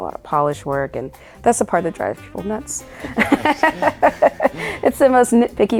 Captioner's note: laughing